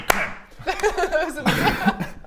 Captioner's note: resigned laughter